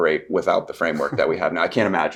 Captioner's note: guest chuckles